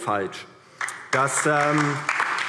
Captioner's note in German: Beifall DIE LINKE